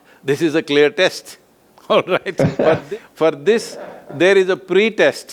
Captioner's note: both laugh